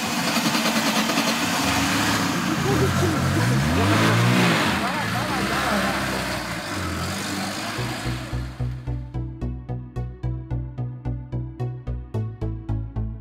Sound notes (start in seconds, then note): 1.6 motor noise; 10.1 suspense music